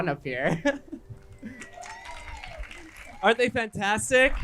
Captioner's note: crowd clapping